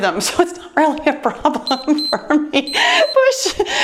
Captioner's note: laughs; timer beeps